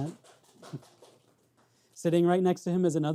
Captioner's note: audience clapping